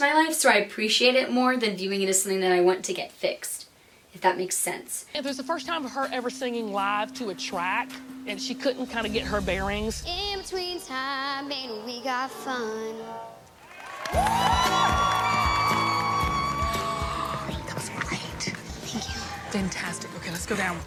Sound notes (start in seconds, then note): 10.8 singing; 13.6 crowd cheering